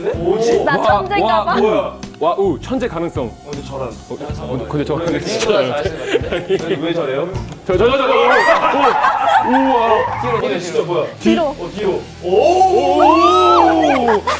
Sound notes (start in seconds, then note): 7.1 questioning; 8.0 laughs; 13.2 laughs